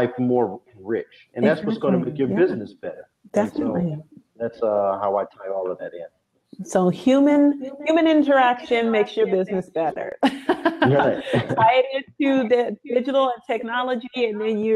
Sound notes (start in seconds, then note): 10.0 laughs